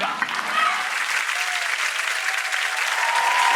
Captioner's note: applause